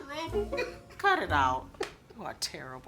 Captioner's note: Ian laughs